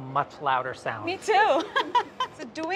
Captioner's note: laughs